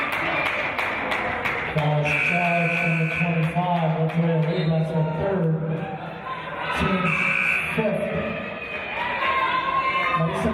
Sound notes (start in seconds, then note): 2.0 buzzer; 7.0 buzzer